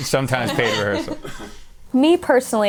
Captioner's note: laughter